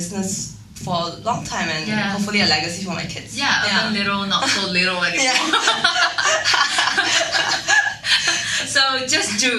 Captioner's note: laughing